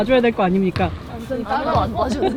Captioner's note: murmuring